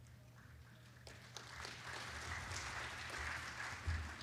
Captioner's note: applause